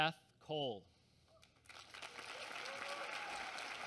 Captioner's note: applause